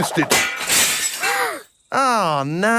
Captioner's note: shatters